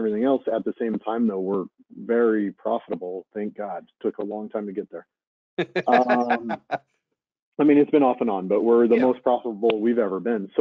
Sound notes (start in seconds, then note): 5.8 laughing